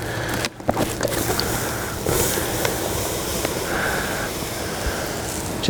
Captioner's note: fire sizzles out